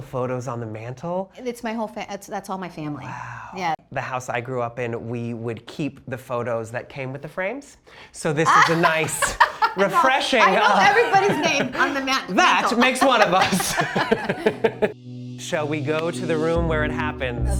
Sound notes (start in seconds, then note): 7.2 Marcela laughs; 14.3 laughs